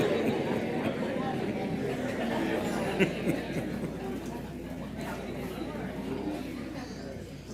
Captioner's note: audience chatter